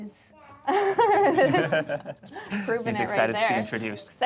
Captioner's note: laughs